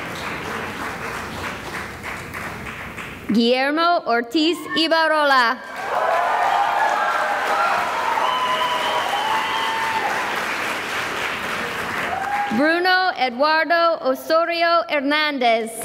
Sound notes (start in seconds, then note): 0.0 cheering and applause; 5.6 cheering and applause